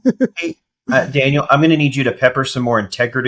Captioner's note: laughs